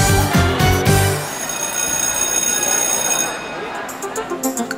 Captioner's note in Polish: dynamiczna muzyka; efekt szkolnego dzwonka i rozmów na korytarzu; spokojna muzyka